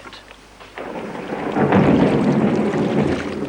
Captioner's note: thunder clapping